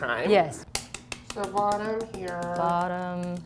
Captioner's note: tapping sounds